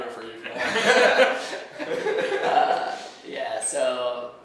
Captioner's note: laughing